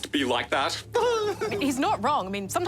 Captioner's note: laughs